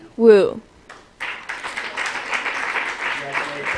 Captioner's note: applause